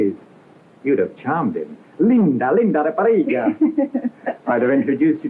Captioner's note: speaking portuguese